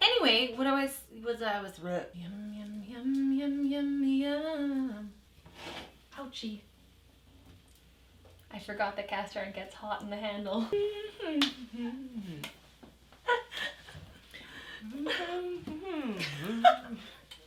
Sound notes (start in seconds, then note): 2.2 humming; 11.2 humming and clapping